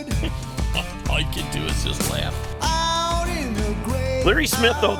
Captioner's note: voiceover